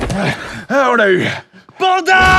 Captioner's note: out of breath